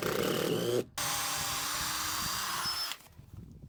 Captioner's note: drill whirring